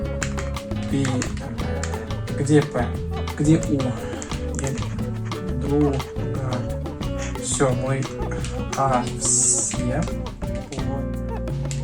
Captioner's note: sounds of diligent brain activity